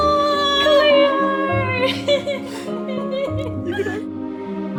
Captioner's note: crying